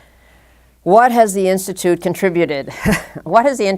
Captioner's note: chuckle